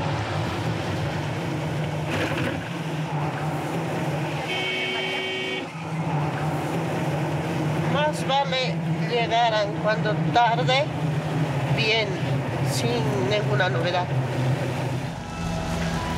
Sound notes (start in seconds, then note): 4.3 car horn honking; 8.4 speaking in foreign language